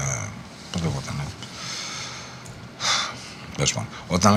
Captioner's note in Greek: αναστενάζει